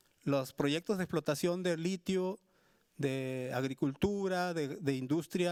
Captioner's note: speaking Spanish continues